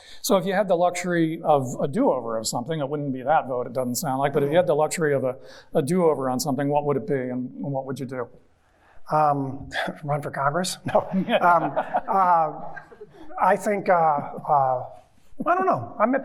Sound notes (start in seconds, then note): 10.4 chuckles; 10.8 audience chuckling